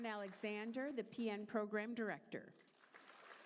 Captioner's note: applause